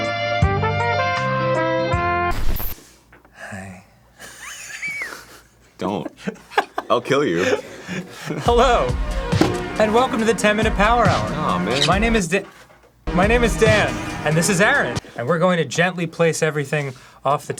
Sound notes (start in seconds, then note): 4.2 wheeze laughing at his overly sultry hi; 6.2 laughing harder about it